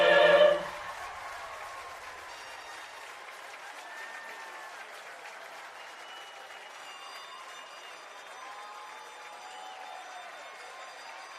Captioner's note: applause